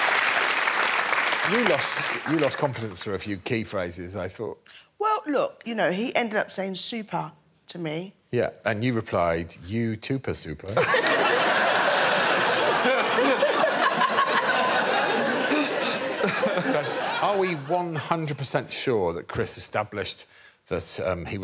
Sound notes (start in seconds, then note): 10.8 audience laughing